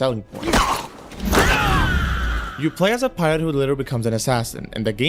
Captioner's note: screaming and groaning